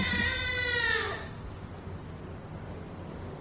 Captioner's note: crying stops